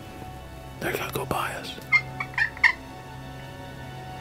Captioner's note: whispering